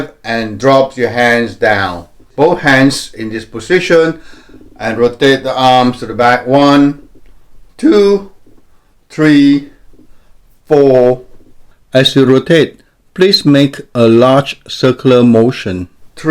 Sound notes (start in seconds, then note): 12.0 voiceover